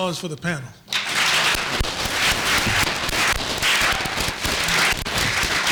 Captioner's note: applause